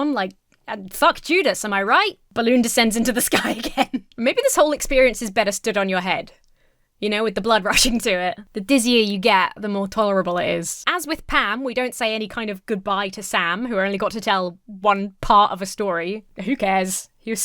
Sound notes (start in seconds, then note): 3.2 Emma laughs